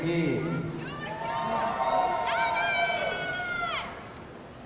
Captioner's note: audience cheering